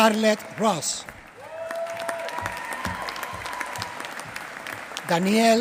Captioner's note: applause